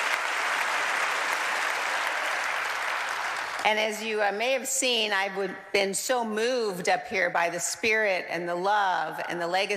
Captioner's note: applause